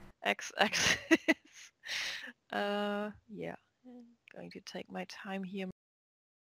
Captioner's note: chuckle